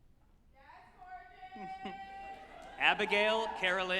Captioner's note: someone off-mic excitedly shouting